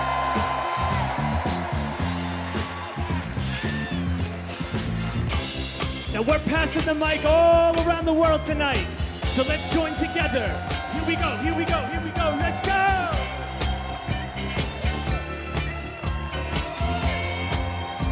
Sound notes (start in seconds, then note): 2.4 cheers and applause